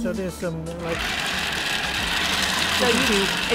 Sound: rattling

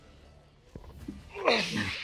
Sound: gruntrunts

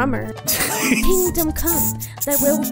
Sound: laughing

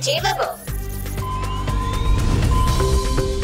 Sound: beeping

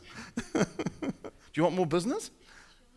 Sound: laughing

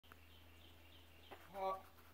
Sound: peaceful birds chirping in the woods

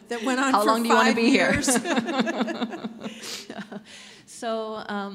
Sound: both laughing

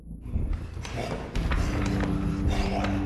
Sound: growling

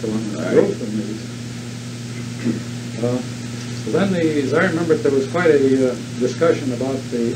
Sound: clears throat

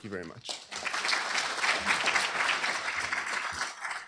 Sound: applause

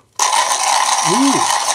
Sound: Comandante grinding

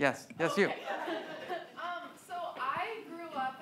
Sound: laughs; audience laughs

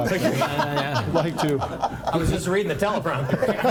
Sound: board members laugh

